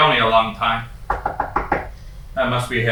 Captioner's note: knocking